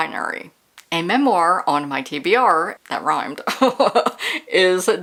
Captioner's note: laughter